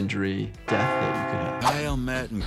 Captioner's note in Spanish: campanas de iglesia oscuras repicando